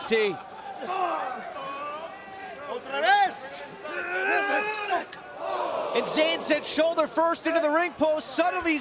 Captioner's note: crowd cheering